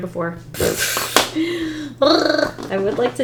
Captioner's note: laughs